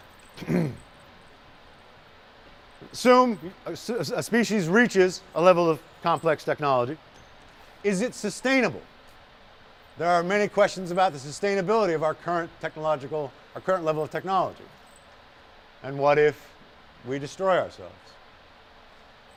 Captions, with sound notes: (clears throat) Assume (stutters) a species reaches a level of complex technology... Is it sustainable? There are many questions about the sustainability of our current technological- our current level of technology. And what if... We destroy ourselves?